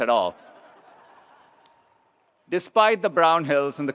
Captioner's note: attendees laughs